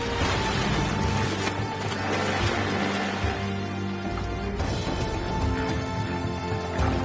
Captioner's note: dramatic music; water splashing; dramatic music; hippos grunting